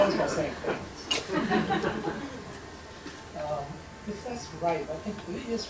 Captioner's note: laughter